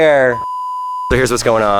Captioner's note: beeping